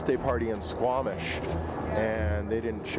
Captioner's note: voiceover